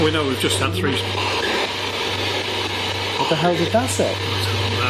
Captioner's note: SB7 chattering